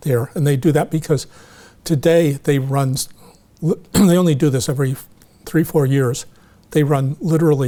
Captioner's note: clears throat